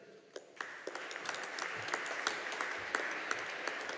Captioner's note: audience applauding